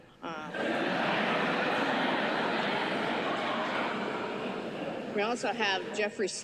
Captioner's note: laughter